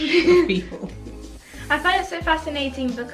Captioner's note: laughs